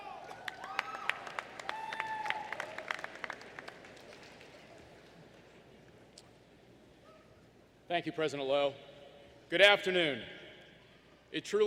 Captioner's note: applause